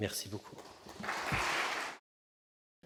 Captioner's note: applause